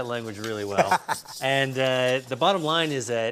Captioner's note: Ming laughs